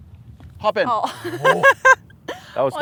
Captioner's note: laughs